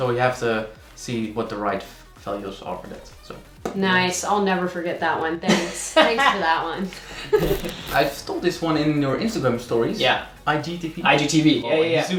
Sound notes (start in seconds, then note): 5.4 laughing and static